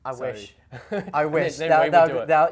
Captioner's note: laughs